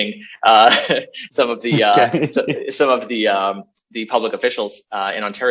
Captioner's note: BOTH laugh